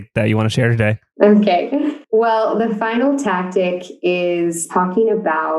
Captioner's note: laughs